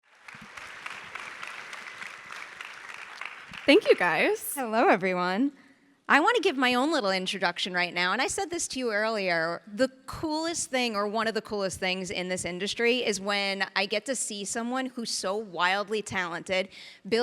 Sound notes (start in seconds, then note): 0.0 audience applauding